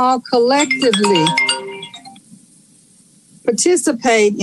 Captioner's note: phone ringing